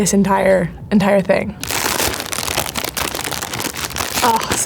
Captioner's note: bag crinkles